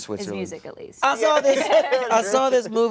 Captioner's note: laughter